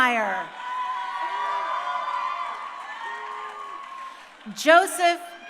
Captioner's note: crowd cheering